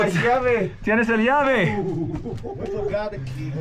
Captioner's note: speakers speaking in foreign language